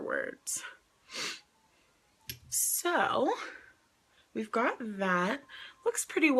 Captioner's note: sniffs